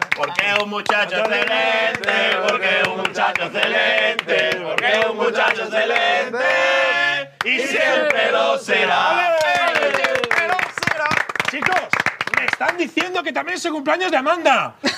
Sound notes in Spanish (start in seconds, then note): 9.2 aplauden